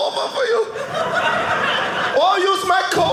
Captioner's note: audience laughing